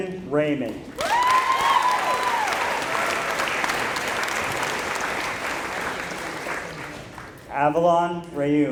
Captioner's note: applause